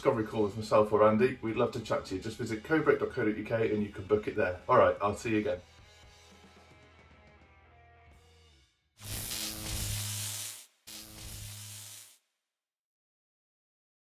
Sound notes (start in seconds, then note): 9.0 buzzing sound